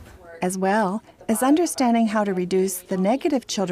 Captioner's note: voiceover